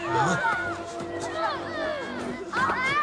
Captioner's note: children laughing, squealing